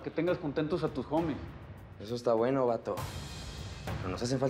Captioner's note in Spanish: none